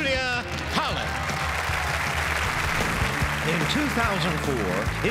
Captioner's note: audience applauds